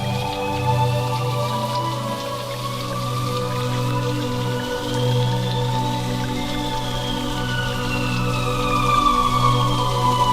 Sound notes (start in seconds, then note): 1.2 water splashing; 5.4 mysterious music continues